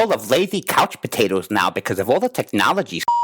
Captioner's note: beep